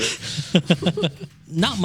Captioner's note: laughing